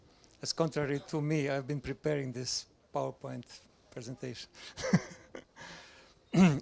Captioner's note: laughs